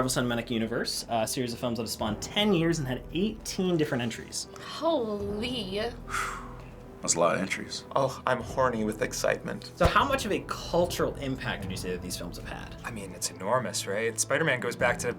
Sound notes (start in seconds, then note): 6.0 exhales